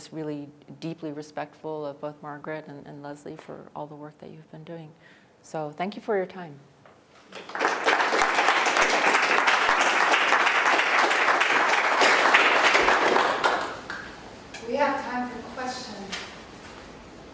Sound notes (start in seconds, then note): 11.0 applause